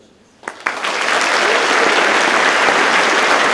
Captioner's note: audience claps